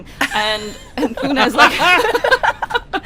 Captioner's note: laughter